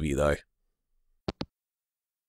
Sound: hangup

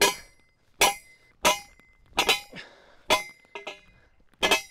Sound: metal clinking

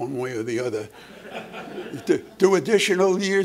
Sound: laughter

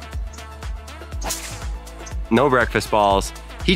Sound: ball thwacking

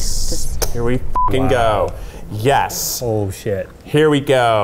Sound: beep

